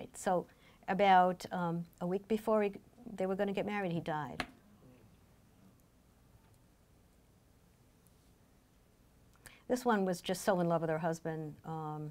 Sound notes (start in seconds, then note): none